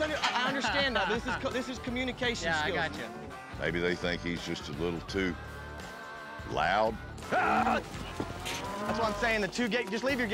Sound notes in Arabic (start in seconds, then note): 7.2 صراخ رباعي